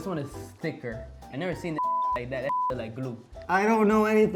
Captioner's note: beep